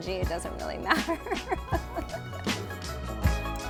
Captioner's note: laughs